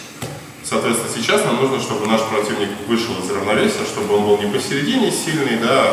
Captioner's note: speaking in a foreign language